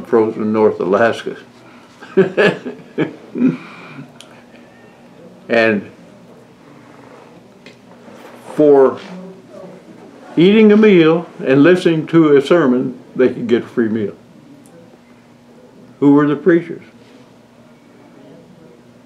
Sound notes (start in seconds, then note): 4.8 laughs